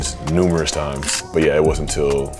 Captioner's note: camera shutters